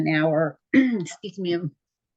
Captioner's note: throat clearing